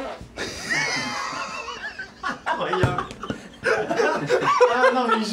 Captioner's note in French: rires